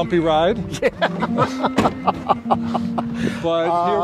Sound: laughter

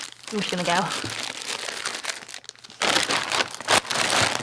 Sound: rustling

